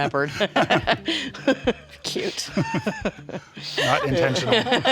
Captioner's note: laughter